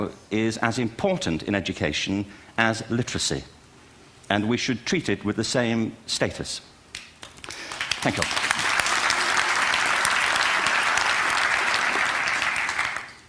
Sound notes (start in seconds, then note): 7.2 applause